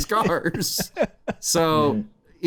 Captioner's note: laughter